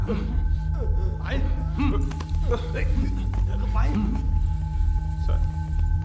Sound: Malay Language

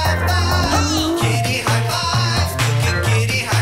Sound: cat mews

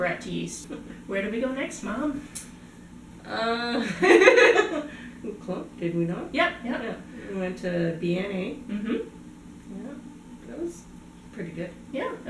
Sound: laughter

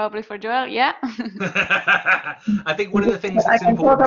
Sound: laughs

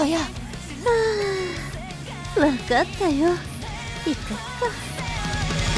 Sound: sigh

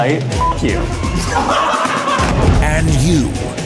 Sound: laughing

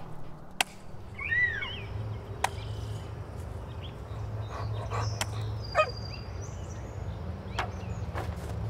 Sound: chopping wood; footsteps

